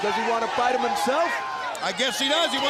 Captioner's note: crowd cheering